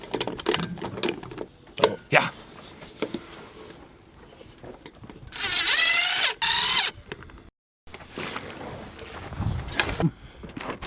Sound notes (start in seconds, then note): 5.3 drilling